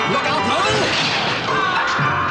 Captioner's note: gunshot